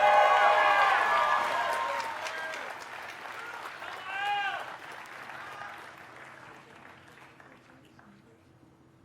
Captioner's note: cheers and applause